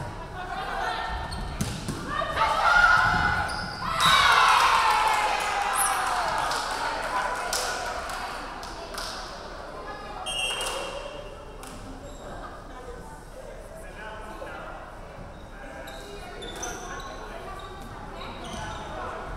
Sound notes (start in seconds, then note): 4.1 referee whistling; 4.4 crowd clapping; 10.2 referee whistling